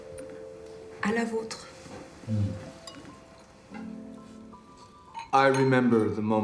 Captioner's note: speaking in foreign language